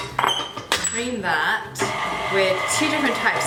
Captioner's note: bowl clanking; mixer whirring